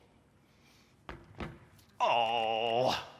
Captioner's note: stomping